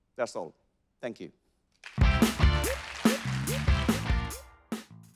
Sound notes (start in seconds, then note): 1.8 audience applauding; 1.9 upbeat music ending